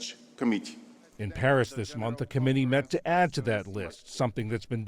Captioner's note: voice-over